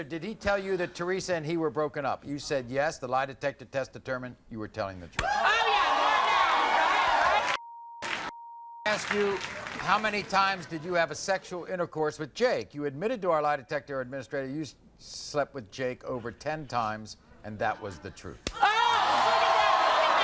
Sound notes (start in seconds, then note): 5.2 audience cheers; 6.4 beep; 18.6 audience screams